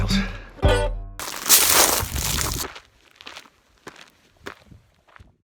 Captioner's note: leaves crunching